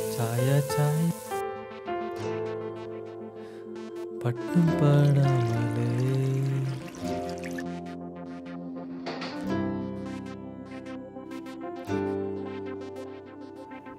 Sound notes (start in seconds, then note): 0.0 Sam humming; 4.1 singing; 9.0 gate creaks; 11.7 instrumental music continues